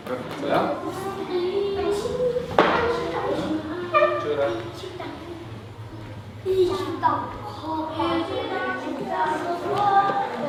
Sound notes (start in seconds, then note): 2.4 kids chattering; 4.5 foreign language